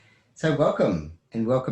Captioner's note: stutters; laughs